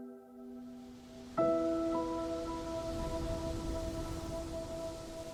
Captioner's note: wind and waves